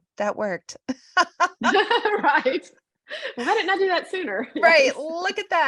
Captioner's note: laughter